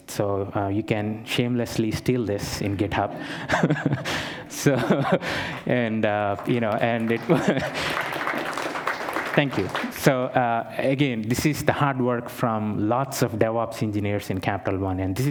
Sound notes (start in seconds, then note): 3.2 laughter; 6.2 applause